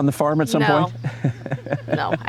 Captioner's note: laughter